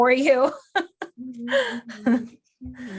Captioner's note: laughing